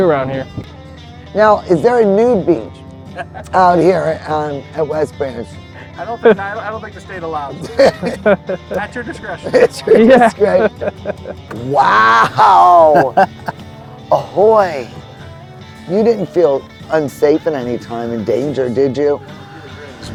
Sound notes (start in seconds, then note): 3.1 laughing; 7.5 laughing; 9.3 laughs